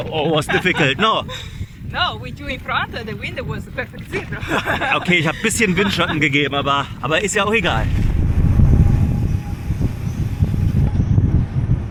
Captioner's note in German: gelächter